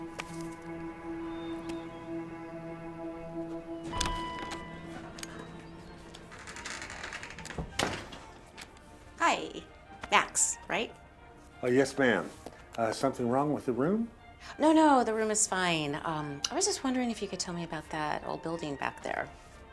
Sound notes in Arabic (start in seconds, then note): 3.0 رنين جرس الباب